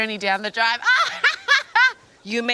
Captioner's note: laughs